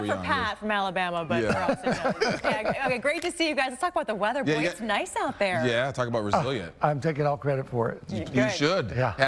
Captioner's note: laughter